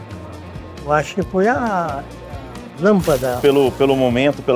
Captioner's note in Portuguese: zunido elétrico